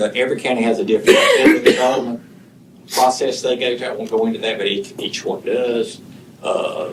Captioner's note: laughter